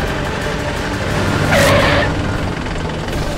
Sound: tyres screeching

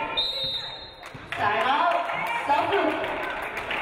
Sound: referee blows whistle

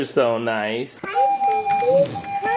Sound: beeping

